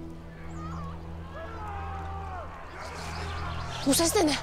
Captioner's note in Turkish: Çığlık sesleri